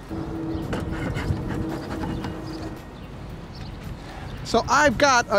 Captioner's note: smoker puffing